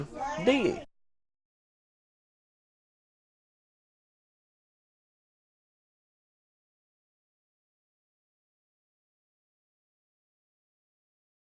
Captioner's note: silence